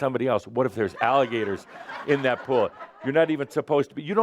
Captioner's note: laughter